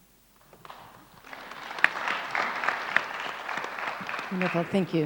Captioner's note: audience applauds